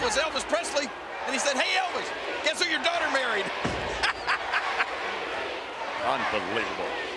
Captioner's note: laughs